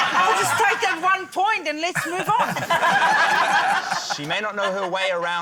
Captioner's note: laughter